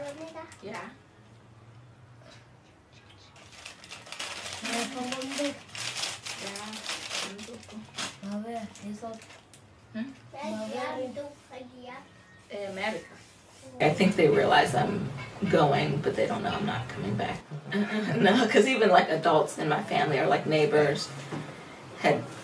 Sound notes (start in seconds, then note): 2.9 laughs; 11.0 boy in t-shirt speaks in native language; 13.1 speaks in native language; 14.7 boy in t-shirt speaks in native language; 16.6 girl in green speaks in native language